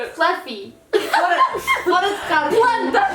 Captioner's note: laughs